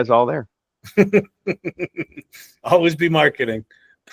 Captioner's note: laughs